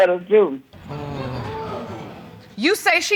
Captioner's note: audience gasping